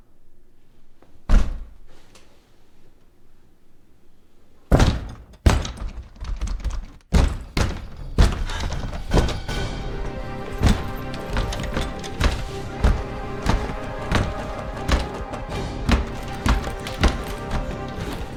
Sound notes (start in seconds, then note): 1.7 banging on door; 8.4 suspenseful music